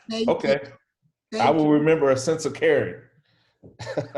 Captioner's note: laughs